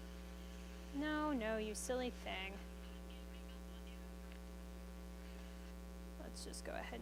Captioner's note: tablet feedback; tablet feedback